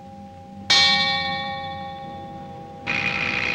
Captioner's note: clock strikes; buzzer